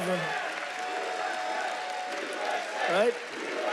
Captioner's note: audience chants "USA"